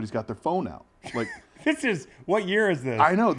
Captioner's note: laugh